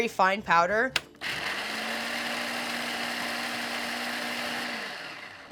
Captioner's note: food processor whirring